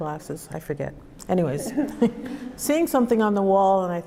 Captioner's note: laughs